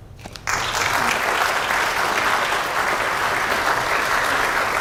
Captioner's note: audience applauding